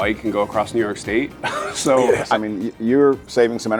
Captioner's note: laughing